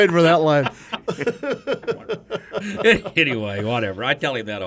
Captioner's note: men laugh